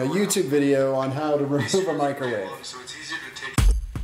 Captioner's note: laughs; upbeat music